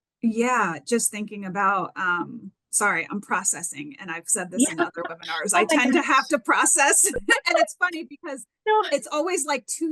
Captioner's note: laughing